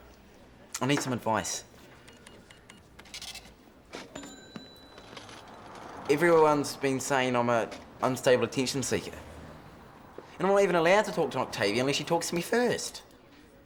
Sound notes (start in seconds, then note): none